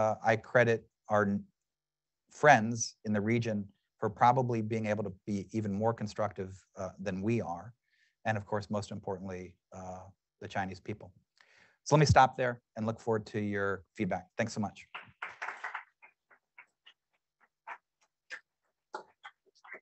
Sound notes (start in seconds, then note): 14.9 audience clapping